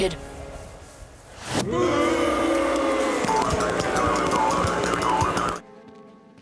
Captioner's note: booing